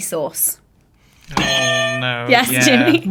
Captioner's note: buzzer sounds